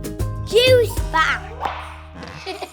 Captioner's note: text popping; child giggling; juice slurping